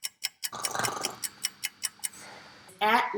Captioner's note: clock ticking; gentle snoring